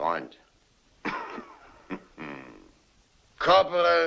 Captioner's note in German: lacht leise